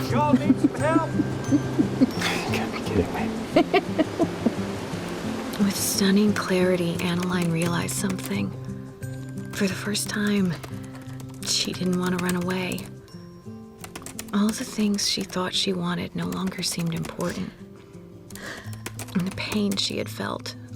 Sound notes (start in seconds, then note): 0.2 drucinda giggling; 3.4 drucinda giggling; 6.4 typing